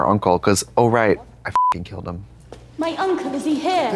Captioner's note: beep